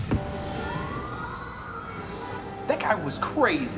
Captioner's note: police sirens blaring